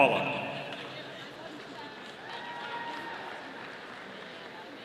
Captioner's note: audience applauding